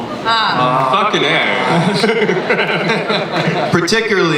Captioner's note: giggles from panel